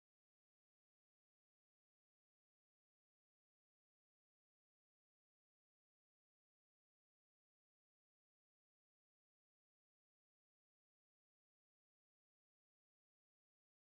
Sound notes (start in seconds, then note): none